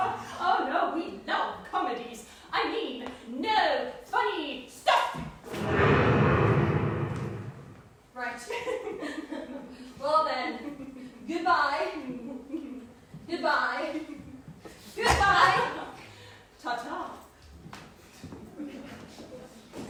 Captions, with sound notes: Oh, no, we love comedies. I mean, No. Funny. Stuff. [thunder rumbles] Right. Well then, goodbye. Goodbye. Goodbye! Tata